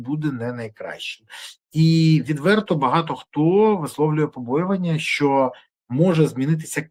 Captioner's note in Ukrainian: сопіння